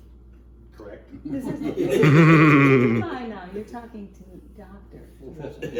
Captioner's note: laughing; laughs